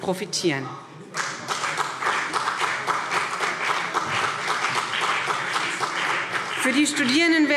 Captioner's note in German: Beifall BÜNDNIS 90/DIE GRÜNEN und CDU